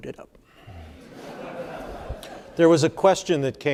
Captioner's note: audience laughing